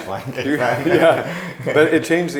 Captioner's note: laughing